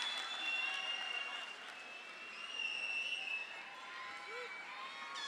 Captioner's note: audience cheers